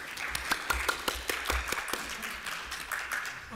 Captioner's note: applause